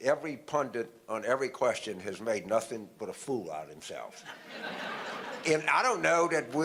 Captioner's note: audience laughter